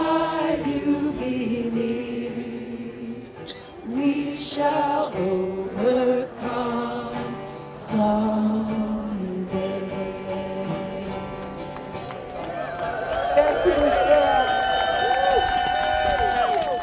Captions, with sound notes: Eyes do believe We shall overcome someday (audience applauding)